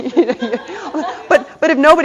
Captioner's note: audience laughter